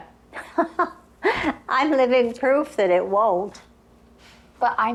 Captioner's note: chuckling